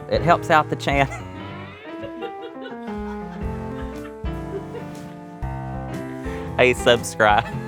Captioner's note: laughing